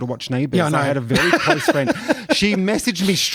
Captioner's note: laughs